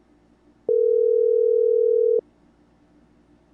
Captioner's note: dial tone